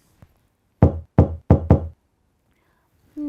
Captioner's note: knocking